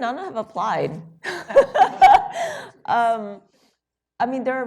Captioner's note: laughter